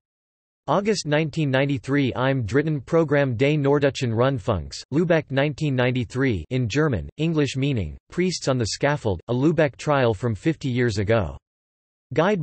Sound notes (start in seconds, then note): 6.3 in German